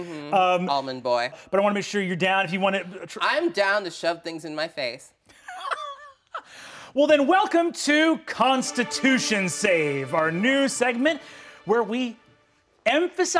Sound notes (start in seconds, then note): 5.5 laughing; 7.4 light music